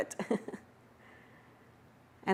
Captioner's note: chuckles